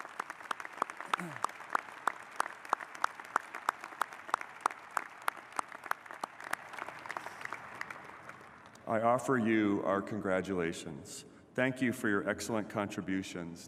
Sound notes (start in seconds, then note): 1.7 applause